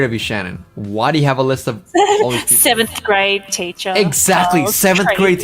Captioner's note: laughs